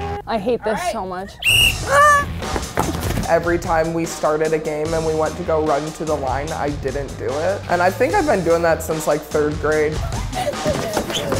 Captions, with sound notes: - I hate this so much. (whistle blowing) - Every time we started a game and we want to go run to the line, I didn't do it. And I think I've been doing that since like third grade.